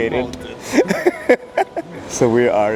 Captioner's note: laughs